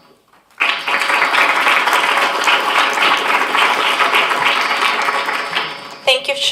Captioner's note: applause